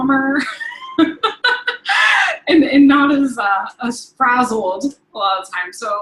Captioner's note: laughing